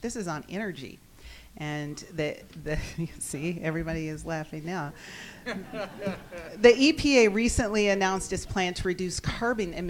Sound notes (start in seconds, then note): 2.8 laughs